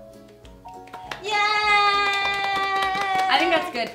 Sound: applause

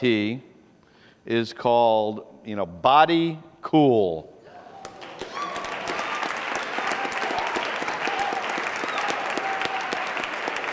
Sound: applause

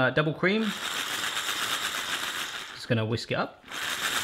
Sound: mixer hums

